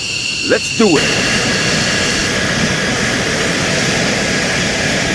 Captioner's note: jet engine roaring